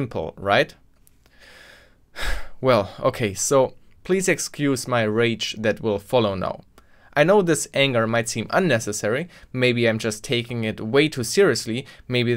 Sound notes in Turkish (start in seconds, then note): 1.2 ağır nefes alma